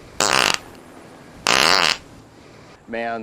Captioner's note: barnyard farts